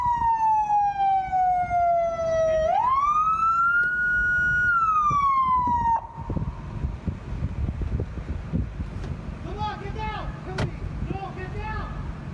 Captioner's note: sirens